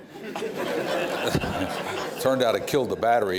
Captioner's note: laughter